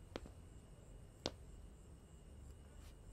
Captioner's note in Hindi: none